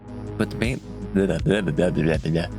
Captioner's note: mimics the sound of the mumbling